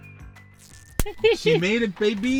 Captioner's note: hands slapping; laughing